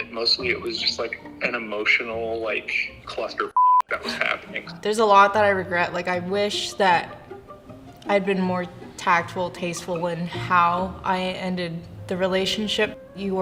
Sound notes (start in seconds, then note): 3.5 beep